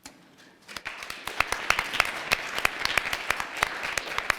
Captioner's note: applause